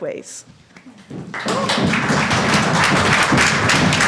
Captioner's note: applause